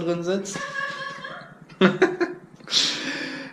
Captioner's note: laughing in the living room